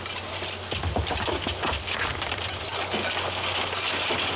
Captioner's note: falling rocks